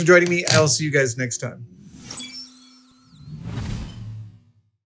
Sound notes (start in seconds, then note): 1.7 electronic whirring and whooshing